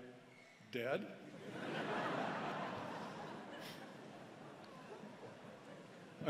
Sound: laughter

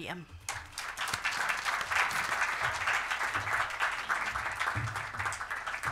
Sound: applause

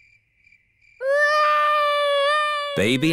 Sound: baby alexander crying

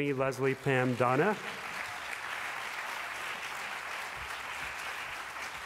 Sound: applause

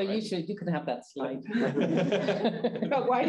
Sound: chuckling

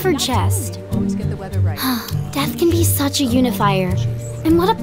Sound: sighs

